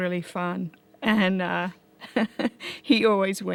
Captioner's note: chuckles